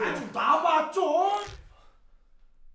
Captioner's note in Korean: 인형 찢어지는 소리